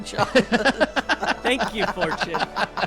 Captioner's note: laughing